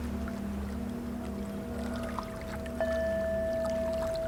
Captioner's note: singing bowl is struck a final time